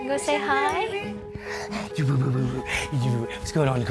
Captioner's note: talking jibberish